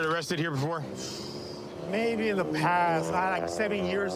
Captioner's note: exhales sharply